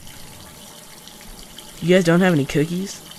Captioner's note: running water